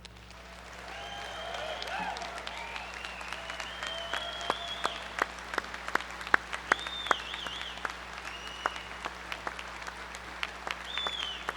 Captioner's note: applause